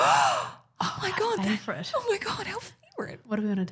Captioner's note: gasps